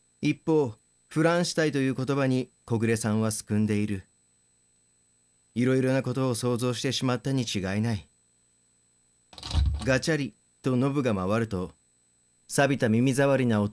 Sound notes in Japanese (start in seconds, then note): 9.3 ドアノブを回す音：ガチャ